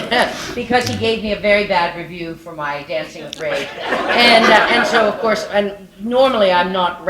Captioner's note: laughter